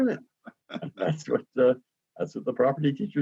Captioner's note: laughs